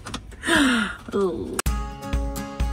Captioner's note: groaning; upbeat music